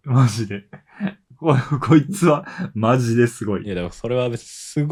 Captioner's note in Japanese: 笑い